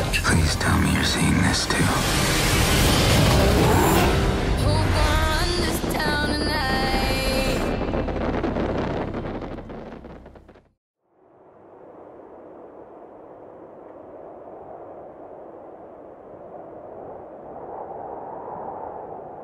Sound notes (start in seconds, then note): 7.9 fireworks explode; 11.2 wind blowing